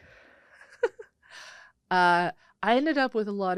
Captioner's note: laughing